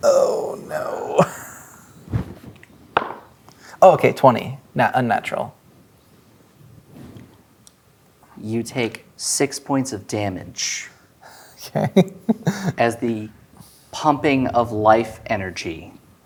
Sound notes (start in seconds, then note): 2.6 dice rolling; 11.5 laughing